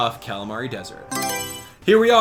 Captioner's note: Mario Selection Sound